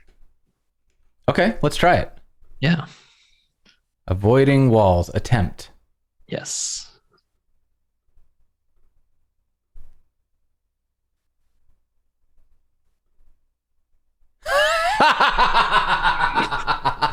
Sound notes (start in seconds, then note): 8.3 laughter